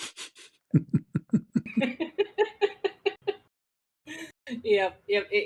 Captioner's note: Ketawa